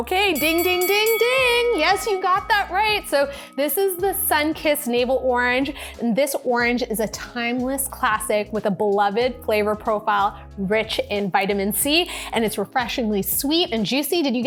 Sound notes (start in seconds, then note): 0.3 bell dings